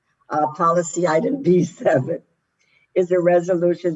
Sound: laughs

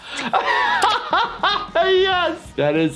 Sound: laughing

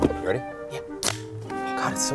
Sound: can opening

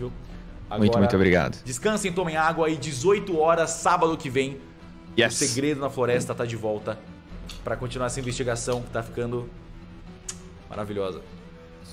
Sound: kiss

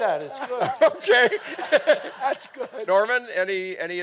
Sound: all laughing

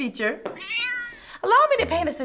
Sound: cat meowing

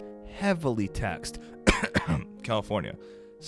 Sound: coughs

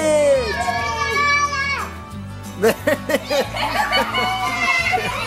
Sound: baby babbles; everyone cheering

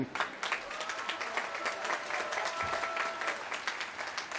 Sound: applause

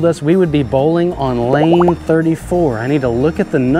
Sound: text burbling

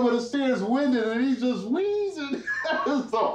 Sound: laughs

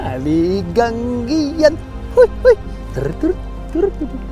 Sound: giggles

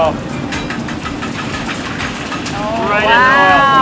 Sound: metal clanging

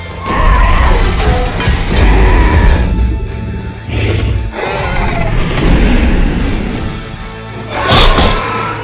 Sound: stomping and growling sounds; Scorpius screeches

